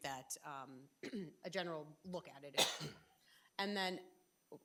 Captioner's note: trustee coughing